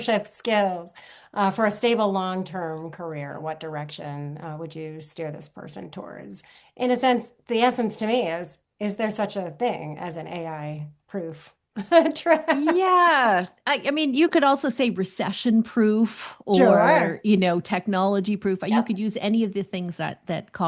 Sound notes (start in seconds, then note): 11.7 laughter